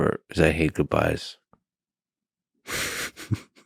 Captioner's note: laughs